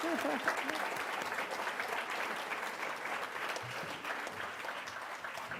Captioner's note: applause